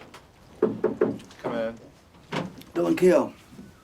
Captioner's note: knocking on door